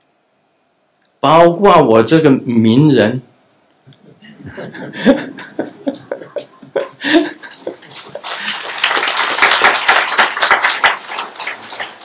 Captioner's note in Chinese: 眾鼓掌